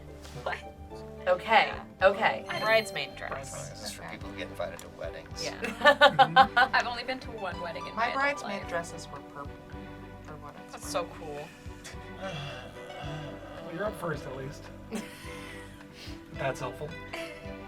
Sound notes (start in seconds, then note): 2.4 word twinkles; 5.6 laughs; 12.1 groans